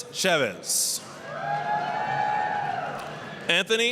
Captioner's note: applause, cheering